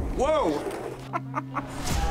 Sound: chuckles

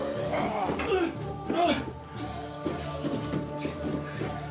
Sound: grunting; choral music; snarling

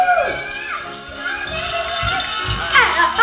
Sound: children yelling

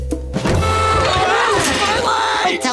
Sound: screaming

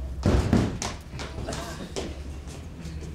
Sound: thuds

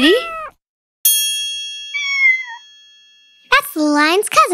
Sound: bell dings

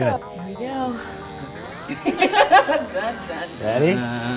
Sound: laughing

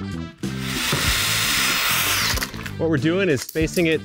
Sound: lively music; drill whining

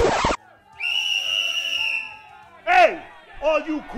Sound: whistle

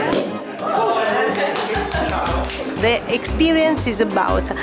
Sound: clapping

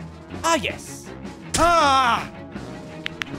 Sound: Spy cries out in pain

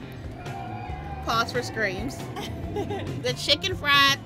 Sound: riders scream

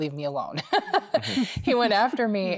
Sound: laughing

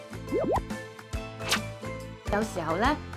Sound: swishing sound

